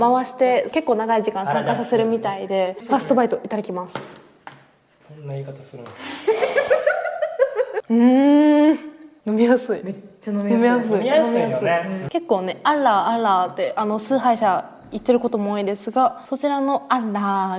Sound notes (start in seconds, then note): 6.2 laughs